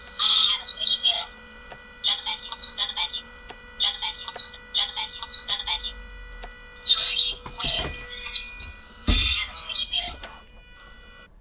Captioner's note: droid sounds